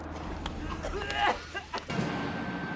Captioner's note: coughing; tense music